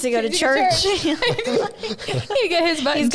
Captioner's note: laughing